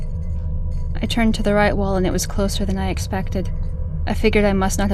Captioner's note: drone, rumble and rattle slowly crescendo